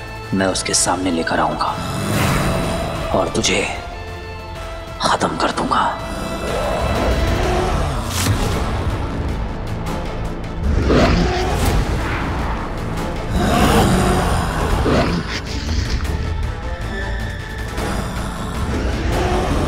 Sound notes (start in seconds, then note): 10.7 thud